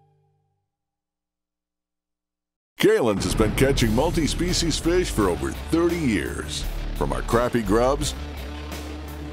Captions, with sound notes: - [Voiceover] Kalin's has been catching multi species fish for over 30 years, from our crappie grubs